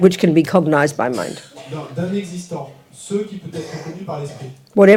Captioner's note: French